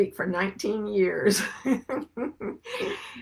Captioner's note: chuckles